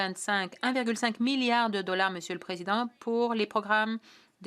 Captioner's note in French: voix de l'interprète